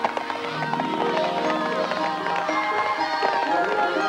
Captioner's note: children chattering; bright music